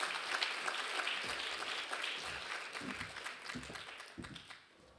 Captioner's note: applause continues